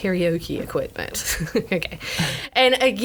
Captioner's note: laughs